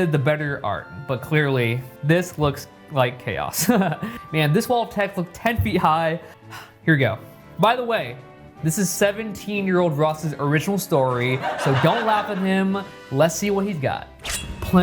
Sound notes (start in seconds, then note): 3.6 laughs